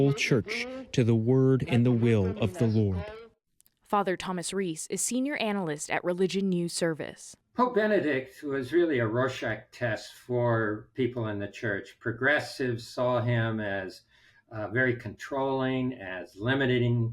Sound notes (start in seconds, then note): 4.0 voice-over